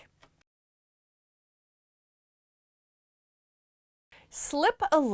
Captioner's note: no Sound Present